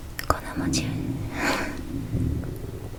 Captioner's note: stomach sounds